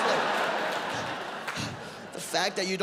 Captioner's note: audience laughs